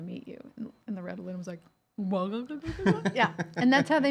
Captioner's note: stammers